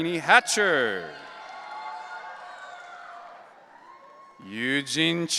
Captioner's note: audience cheering